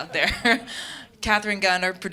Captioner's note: audience laughing